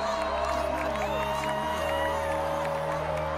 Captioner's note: cheering